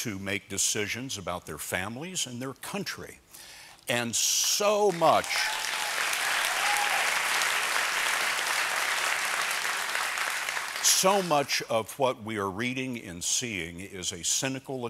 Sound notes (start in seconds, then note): 7.4 applause